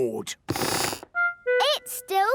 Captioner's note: squeaks